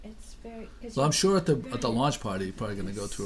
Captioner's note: voiceover